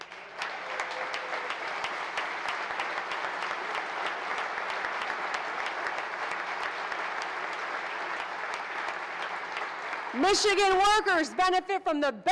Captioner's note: applause